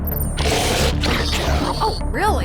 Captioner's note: tense music; 2Bells growling